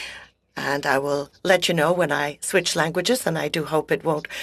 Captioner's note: speaking French